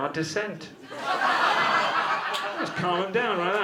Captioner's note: audience laughter